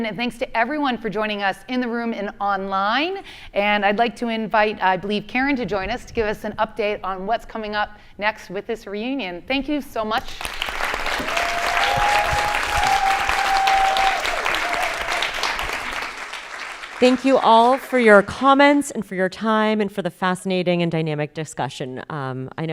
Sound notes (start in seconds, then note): 10.2 audience applauding